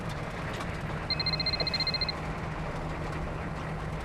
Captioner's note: cellphone ringing